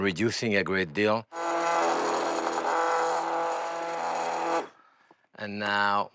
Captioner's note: whirring